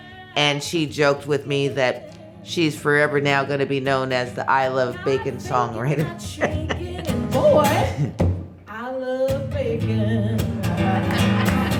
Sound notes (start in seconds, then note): 6.0 laughs; 8.1 singing; 10.6 laughs